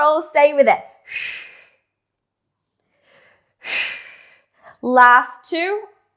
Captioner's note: breathing sharply